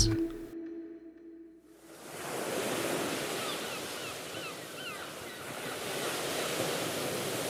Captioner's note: seagulls squawking; water sloshing